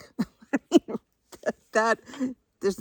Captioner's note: chuckles